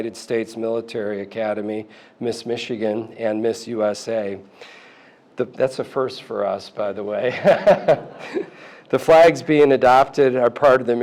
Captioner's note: laughter